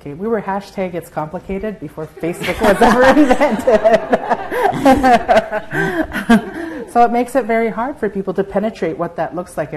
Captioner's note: laughter